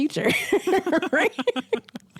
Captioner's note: laugh